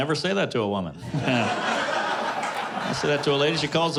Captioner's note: laughter